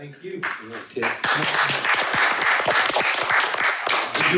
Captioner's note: attendees clapping